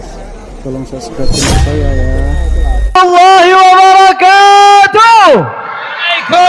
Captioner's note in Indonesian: berteriak